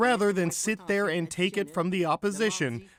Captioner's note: speaking French